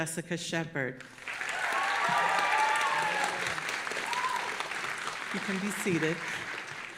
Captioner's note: audience applauding and cheering